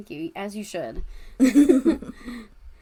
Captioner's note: laughs